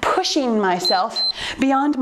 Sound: timer beeps

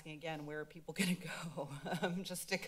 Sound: laughs

